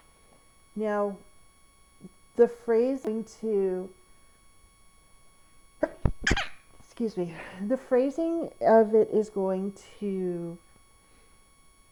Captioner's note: sneeze